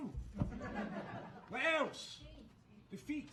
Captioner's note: audience laughing